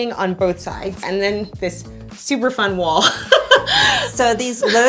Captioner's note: laughs